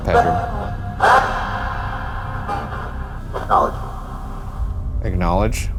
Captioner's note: static buzzing